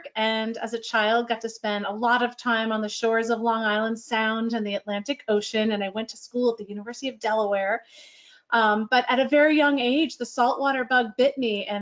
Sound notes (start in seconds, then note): none